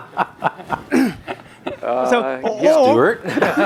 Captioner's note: panelists laughs